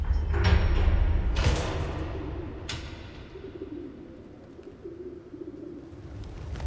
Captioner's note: crates rumbling; pigeons cooing